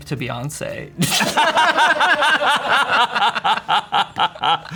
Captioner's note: everyone laughs